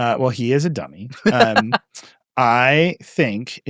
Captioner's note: laughing